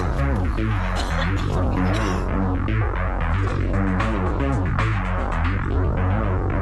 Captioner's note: crunch; coughing